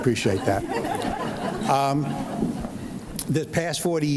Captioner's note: audience laughs